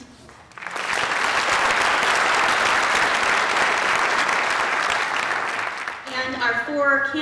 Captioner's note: applause